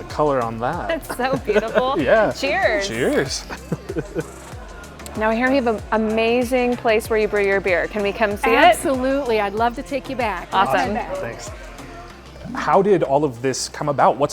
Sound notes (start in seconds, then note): 0.9 laughs